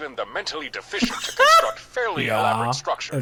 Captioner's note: laughing